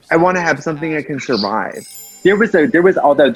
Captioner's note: classical music; chimes